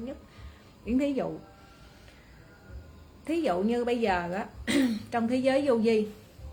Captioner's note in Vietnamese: hắng giọng